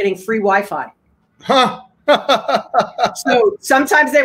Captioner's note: laughing